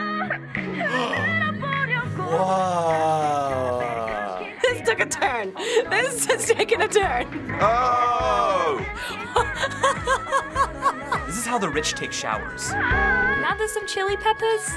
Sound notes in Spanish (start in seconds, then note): 9.0 Riendo incontrolablemente